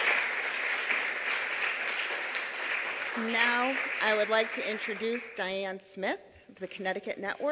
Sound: applause

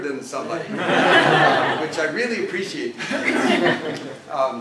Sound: laugh

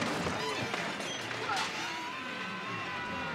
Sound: screaming

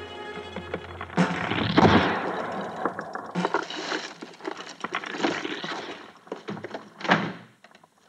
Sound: suspenseful music; cracking wall

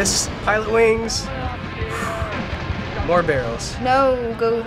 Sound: sighs in relief

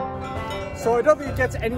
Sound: cowbells jingling

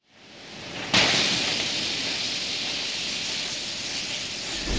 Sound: sparks ignite

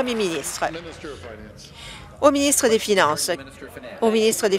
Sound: applause

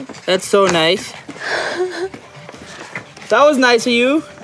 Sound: laughs

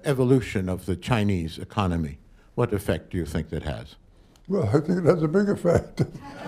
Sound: laughter

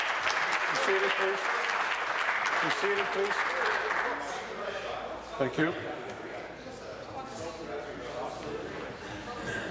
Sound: applause

